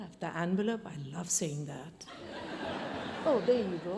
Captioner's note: audience laughs